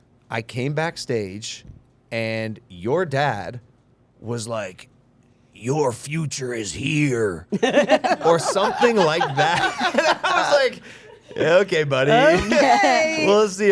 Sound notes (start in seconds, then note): 7.5 group laughing